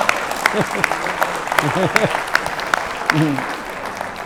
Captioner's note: audience claps; laughs